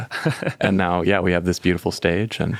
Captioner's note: laughing